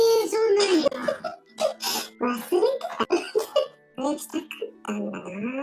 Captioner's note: laughs